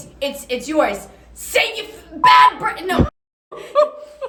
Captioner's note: beep; laughs